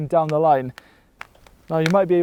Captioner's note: post creaks